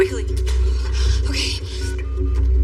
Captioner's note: dialing p phone